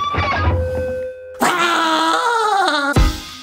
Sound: Big foot cowardly scream

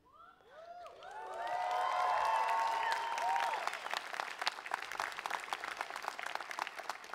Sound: cheering

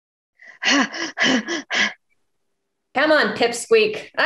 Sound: fighter huffing

